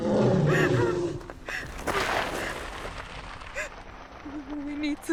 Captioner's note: monster growling